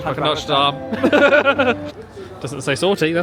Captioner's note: both laughing